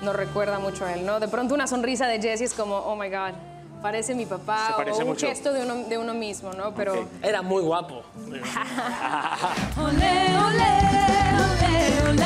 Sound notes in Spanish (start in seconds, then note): 8.4 Risas